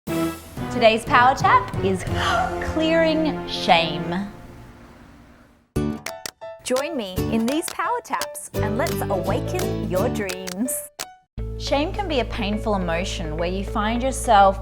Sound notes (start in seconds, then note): 2.0 gasps; 5.8 easy listening music